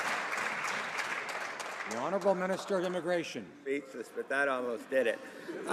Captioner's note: some Applause